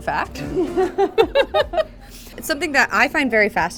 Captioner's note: laughter